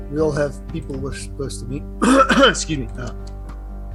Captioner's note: coughs